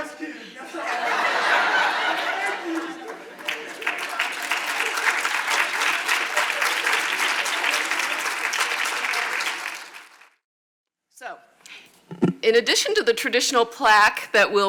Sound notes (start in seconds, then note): 3.6 audience applauds